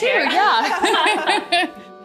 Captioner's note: laughing